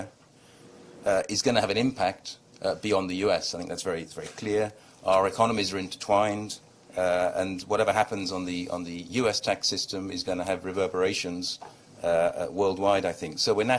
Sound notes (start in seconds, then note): none